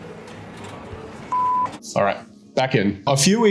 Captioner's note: beep